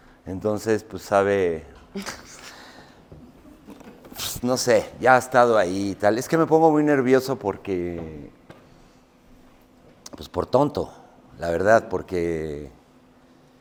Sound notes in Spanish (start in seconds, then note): 2.0 Risas